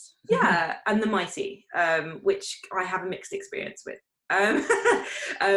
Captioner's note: chuckles